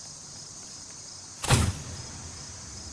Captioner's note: thump